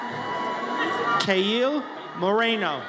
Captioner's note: audience cheers